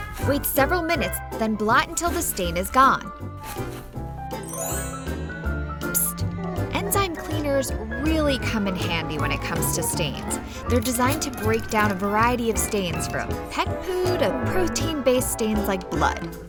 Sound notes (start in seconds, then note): 4.4 tinkling